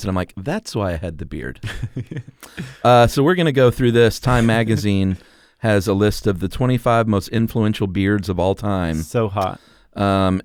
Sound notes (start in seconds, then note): 1.6 laughter